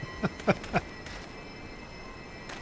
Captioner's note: laughter